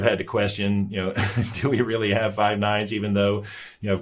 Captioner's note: chuckles